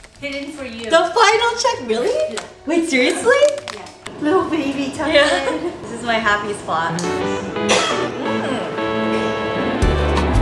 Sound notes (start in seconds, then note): 4.3 laughs; 6.4 bright upbeat music